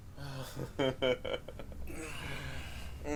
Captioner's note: laughing